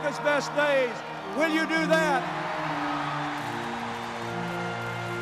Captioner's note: cheers and applause